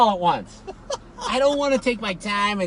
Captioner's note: laughing